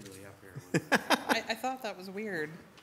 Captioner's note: laughs